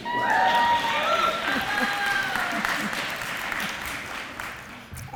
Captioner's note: applause